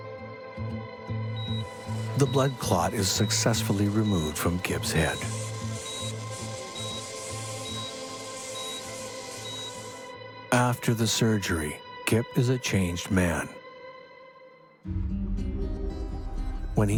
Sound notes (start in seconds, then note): 5.7 dramatic music; 6.9 machine beeping; 6.9 tools buzzing; 14.8 tense music